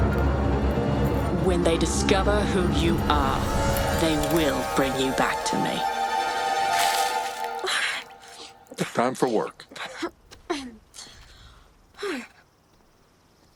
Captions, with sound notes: When they discover who you are, they will bring you back to me. - [gasping] - Time for work.